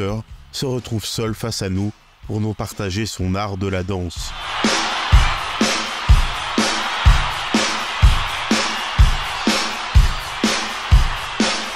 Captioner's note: applause